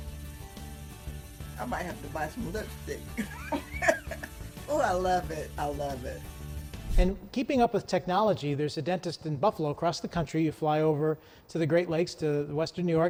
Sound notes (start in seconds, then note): 3.2 laughs